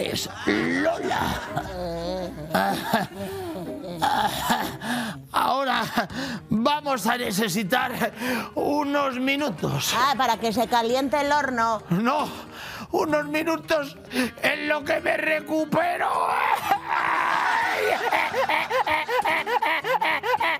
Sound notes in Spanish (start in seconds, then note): 2.5 Risas